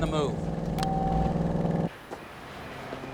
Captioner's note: phone beeps off